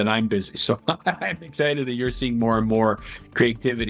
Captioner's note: laughs